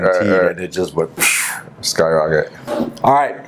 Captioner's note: makes rocket sound